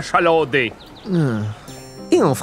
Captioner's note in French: soupir mélancolique